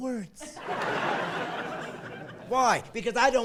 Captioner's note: laughing